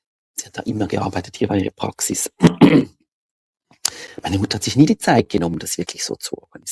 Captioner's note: ahem